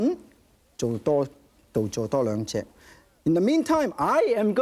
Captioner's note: speaking in foreign language